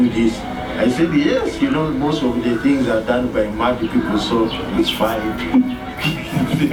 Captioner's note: laughter